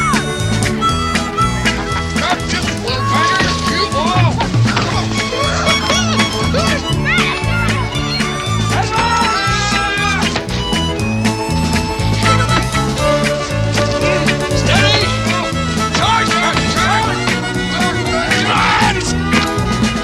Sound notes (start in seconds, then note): 3.1 upbeat music; 3.1 yelling continues; 15.8 Joe yells